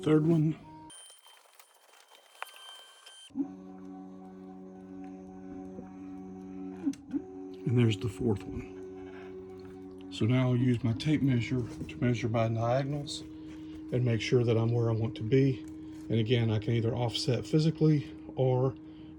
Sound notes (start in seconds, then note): 0.2 motor sound; 7.5 motor sound